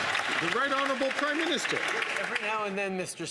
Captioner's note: some Applause